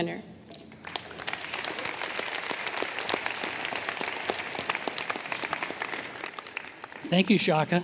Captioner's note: applause